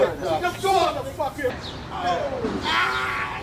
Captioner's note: shouting